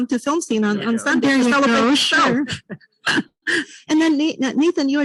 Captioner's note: group chatter